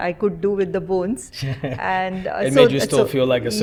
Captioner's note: chuckles